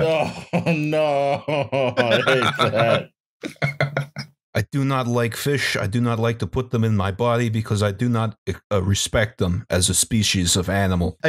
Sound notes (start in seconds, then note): 2.9 laughs; 3.4 laughter; 4.9 NY voice